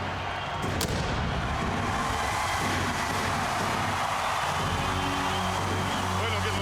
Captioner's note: fireworks crackling; upbeat marching music